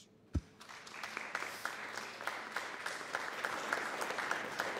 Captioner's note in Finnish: Aplodeja